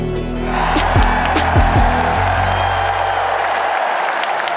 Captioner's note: music fades, crowd cheers